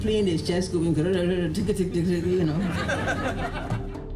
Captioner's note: imitation of plane vibrating; laughter